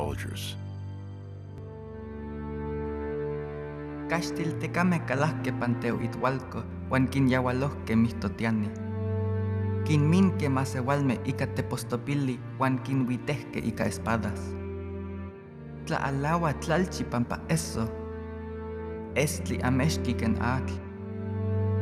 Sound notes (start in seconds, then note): 4.8 speaking Nahuatl